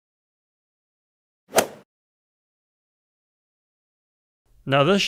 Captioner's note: golf swing sound effect